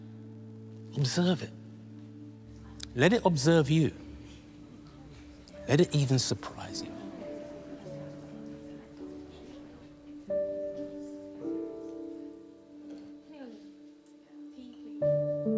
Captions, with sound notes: Observe it, let it observe you. Let it even surprise you. (The Andersons faintly speaking) (sentimental music)